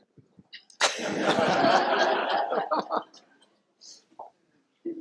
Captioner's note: laughter